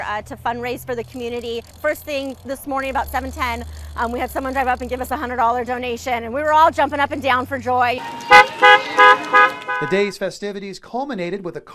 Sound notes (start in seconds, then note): 7.9 car horn